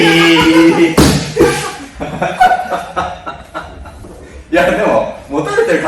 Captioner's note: laughs